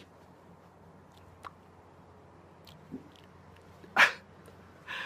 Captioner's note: no noise